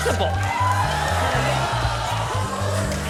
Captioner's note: cheering